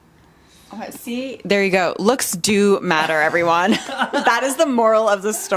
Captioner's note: laughs